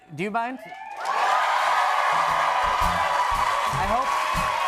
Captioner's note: cheers and applause; jazz music plays